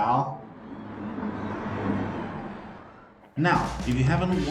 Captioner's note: engines revving, cars noises